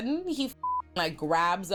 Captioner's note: beep